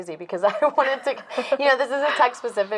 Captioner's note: laughing